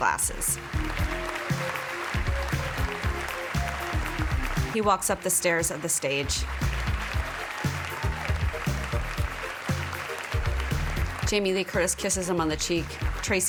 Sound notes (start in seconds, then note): 2.5 applause